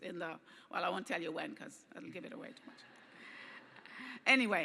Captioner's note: laughter